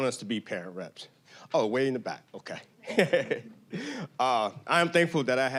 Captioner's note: laughing